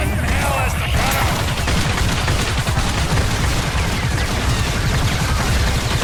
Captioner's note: helicopter whirring; gunfire